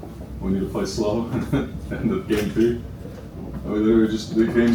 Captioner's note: laughs